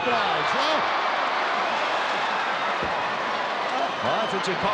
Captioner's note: crowd yelling